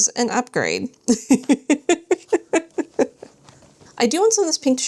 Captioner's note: laughs